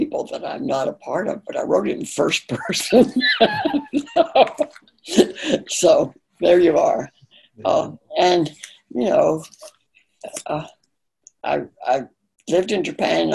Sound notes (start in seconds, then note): 2.9 laughing